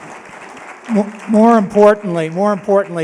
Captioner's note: applause